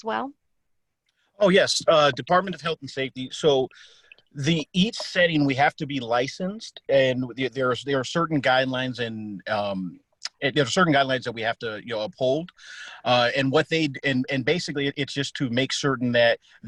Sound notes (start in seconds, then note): 3.1 on phone